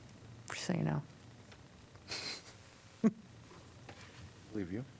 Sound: laughter

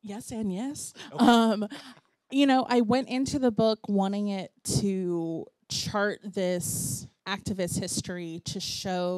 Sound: laughter

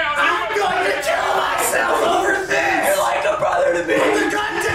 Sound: crying while argure

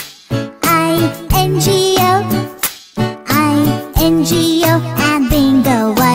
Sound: clap

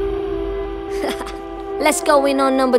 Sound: haha

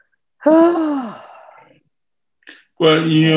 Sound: sighs

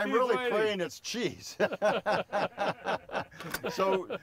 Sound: laughing

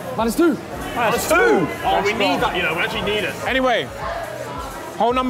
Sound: none

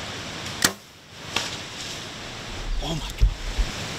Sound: bow shoots

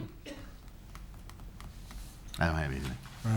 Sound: coughing

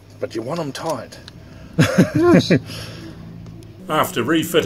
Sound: laughs

